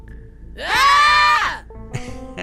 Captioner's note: screams; laughter